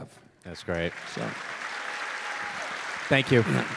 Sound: audience applause

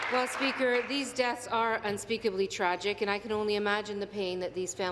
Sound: applause

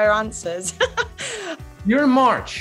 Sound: Daisy laughs

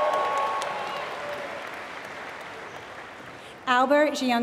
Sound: applause

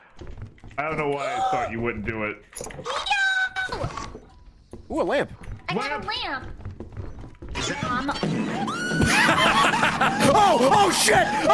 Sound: fart noise, screams

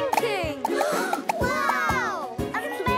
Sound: gasping

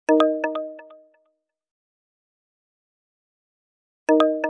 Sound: without Sound

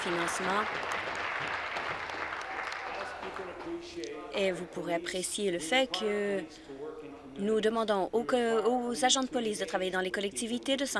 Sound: applause

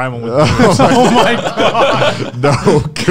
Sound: laughing loudly

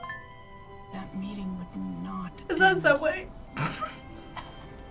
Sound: laughs

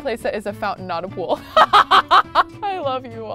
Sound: laughs

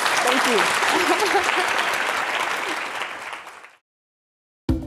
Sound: audience applauding

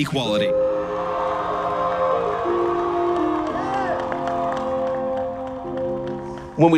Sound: soft music; graduates cheers

